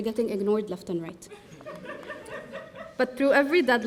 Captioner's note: audience laughing